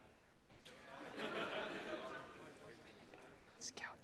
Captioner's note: laughter